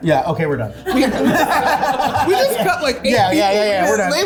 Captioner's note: cast laughing